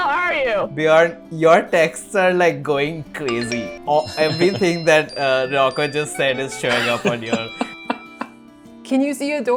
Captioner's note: laughter